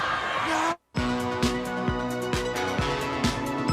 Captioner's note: crowd cheering